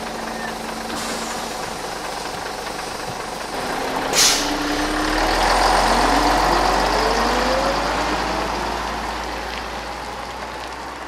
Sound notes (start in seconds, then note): 2.3 truck idling then slowly leaving